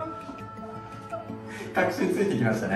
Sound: laughs

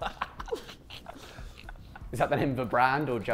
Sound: Sidemen laughing

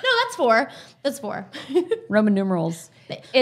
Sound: chuckles

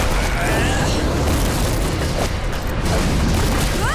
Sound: grunting

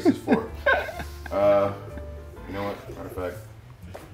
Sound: laugh

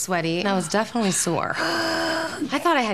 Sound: grunts

